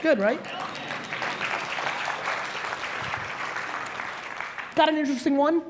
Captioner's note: audience applauds